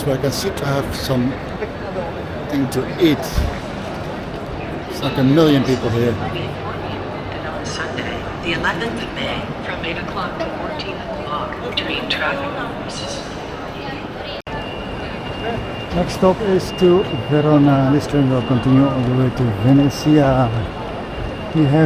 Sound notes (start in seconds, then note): 7.6 announcement over tannoy